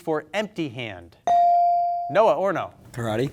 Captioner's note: bell sounding